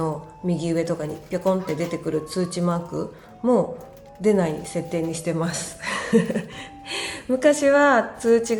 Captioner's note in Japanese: 笑い